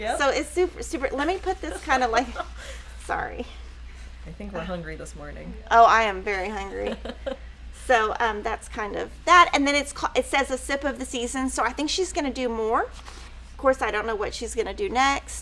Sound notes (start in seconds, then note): 1.4 laughs; 6.6 chuckles